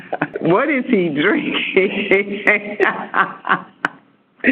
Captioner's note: laughter